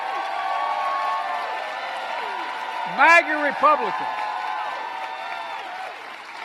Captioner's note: applause